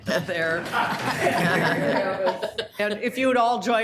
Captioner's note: all laughing